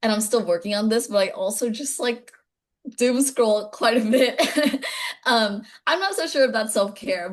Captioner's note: laughing